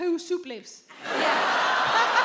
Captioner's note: laughs; audience with disgust